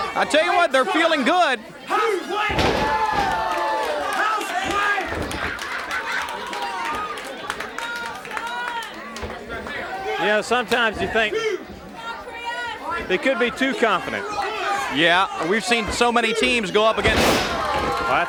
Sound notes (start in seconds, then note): 2.4 body thuds; 2.7 audience cheering